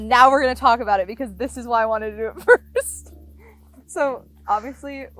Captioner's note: laughs